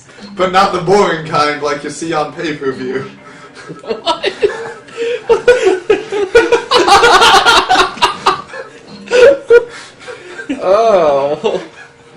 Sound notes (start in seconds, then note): 4.0 chuckling; 6.2 laugh